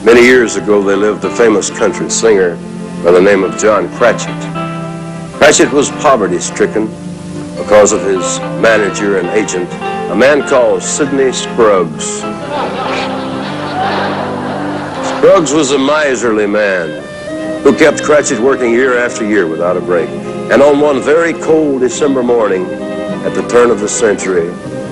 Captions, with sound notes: Many years ago, there lived a famous country singer by the name of John Cratchit. Cratchit was poverty-stricken because of his manager and agent, a man called Sidney Scruggs. [laughter] Scruggs was a miserly man, who kept Cratchit working year after year without a break. And on one very cold December morning, at the turn of the century,